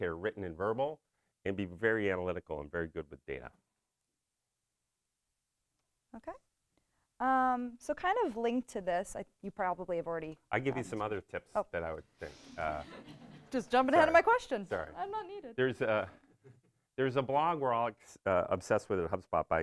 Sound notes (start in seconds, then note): 12.7 audience laughs